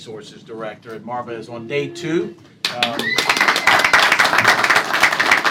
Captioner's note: applause